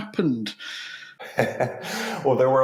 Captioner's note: chuckles